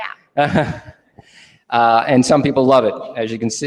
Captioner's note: laughing